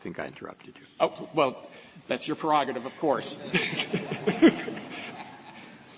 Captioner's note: laughter